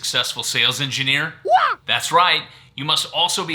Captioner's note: ninja screaming